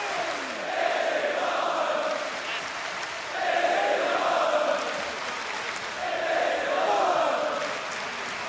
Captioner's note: crowd cheering